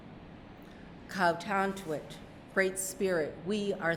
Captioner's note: speaking narragansett